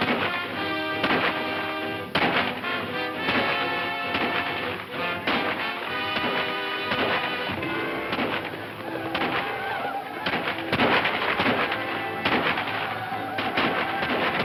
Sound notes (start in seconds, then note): 9.1 whooping; 12.5 guns firing